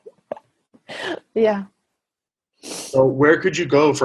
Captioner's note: laughs